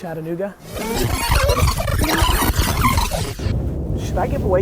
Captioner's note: tape rewinding